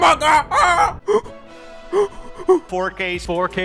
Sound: cries

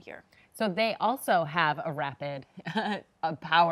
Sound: chuckles

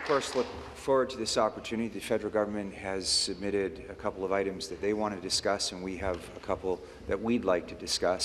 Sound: applause

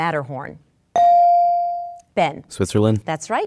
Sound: dinging

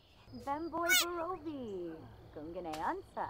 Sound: unsatisfied squeal at the jerk

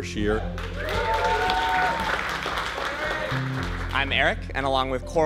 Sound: applause

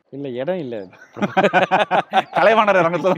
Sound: laughs

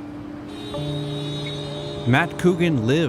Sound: cars honk

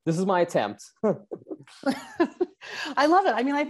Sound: both laugh

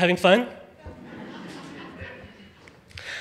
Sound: audience laughing

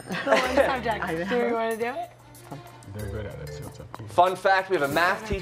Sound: laughter

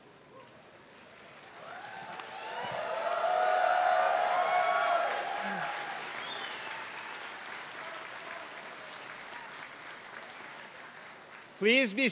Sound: applause

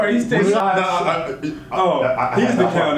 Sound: stammers

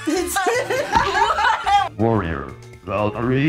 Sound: laughs

